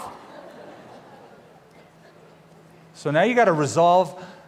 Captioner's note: laughter